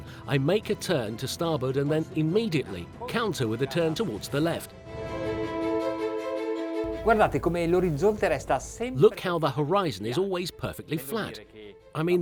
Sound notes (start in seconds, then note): 7.2 speaking in a foreign language